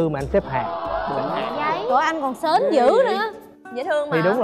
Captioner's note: surprise sound